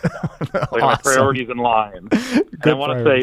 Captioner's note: laughs